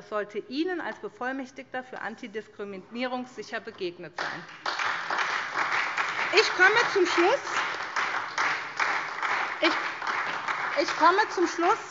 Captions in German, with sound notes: Das sollte Ihnen als Bevollmächtigter für Antidiskriminierung sicher begegnet sein. [Beifall SPD] Ich komme zum Schluss.